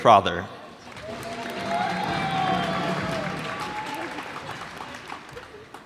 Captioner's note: cheers and applause